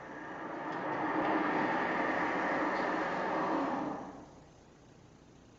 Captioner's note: the sound of a car passing outside